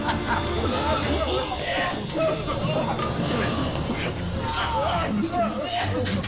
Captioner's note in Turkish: Gülme sesi; Boğulma sesleri